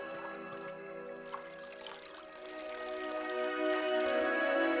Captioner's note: water sloshing; soft music